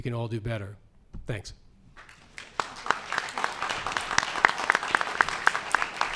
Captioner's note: audience applauds